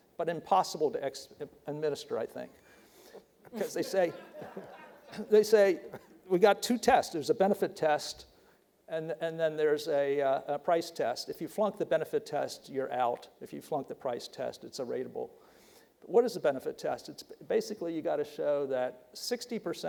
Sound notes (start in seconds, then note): 3.5 audience laughing